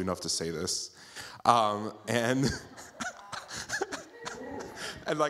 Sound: laughs

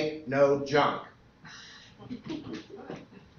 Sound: laughter

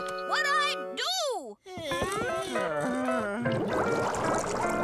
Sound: groaning

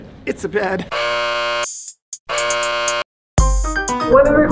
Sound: buzzer

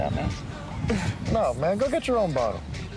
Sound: scoffs

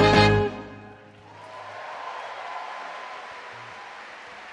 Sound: audience claps

